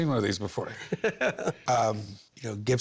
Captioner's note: laughs